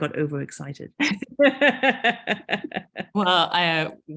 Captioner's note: both laughing